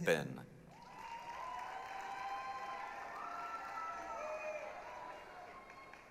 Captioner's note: applause, cheering